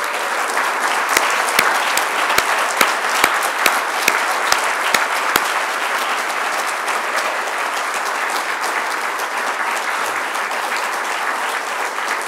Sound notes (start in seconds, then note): 4.3 applause